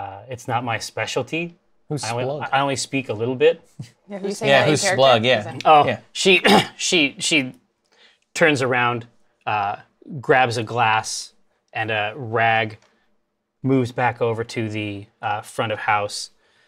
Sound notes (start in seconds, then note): 6.4 clears throat